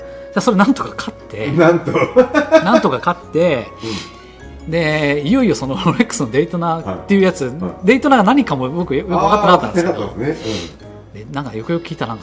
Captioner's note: laughs